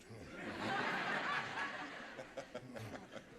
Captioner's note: audience laughter